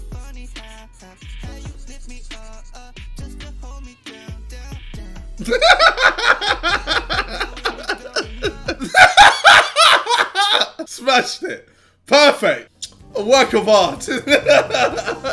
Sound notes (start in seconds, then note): 5.4 laughs